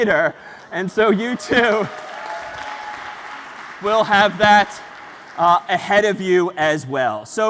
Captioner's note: ปรบมือ